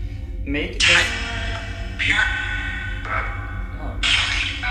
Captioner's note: chanting